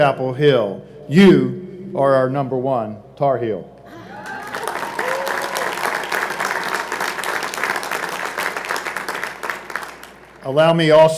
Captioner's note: applause